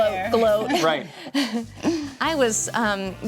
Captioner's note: chuckles